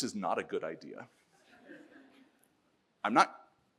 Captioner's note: audience laughs